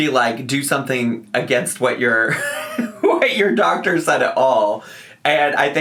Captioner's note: laughs